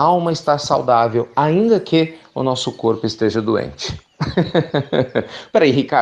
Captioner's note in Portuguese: Risos